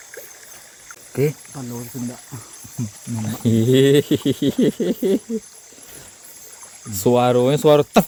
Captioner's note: laughs